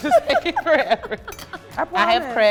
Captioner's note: laughs